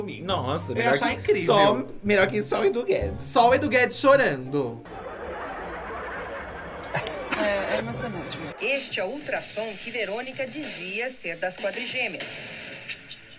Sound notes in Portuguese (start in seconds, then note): 5.0 risos